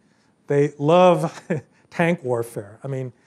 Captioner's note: laugh